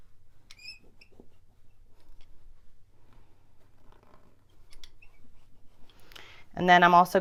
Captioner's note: seam roller squeaks